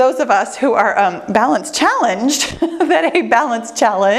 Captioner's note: laughs